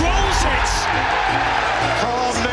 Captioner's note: crowd erupts